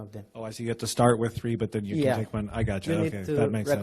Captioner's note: voiceover